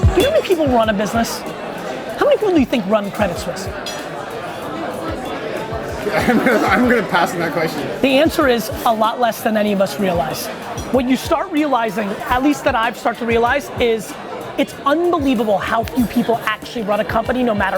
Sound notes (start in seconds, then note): 6.4 laughs